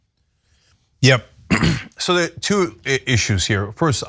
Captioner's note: cough